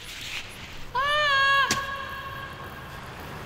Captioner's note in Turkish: Şirin bağırıyor